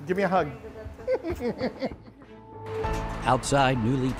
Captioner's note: laughing